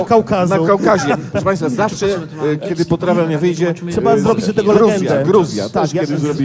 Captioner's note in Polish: śmiech